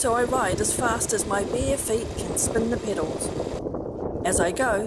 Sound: wind noise

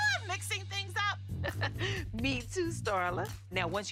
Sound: chuckles

